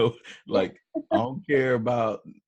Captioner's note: laughs